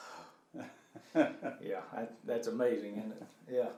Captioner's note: laughing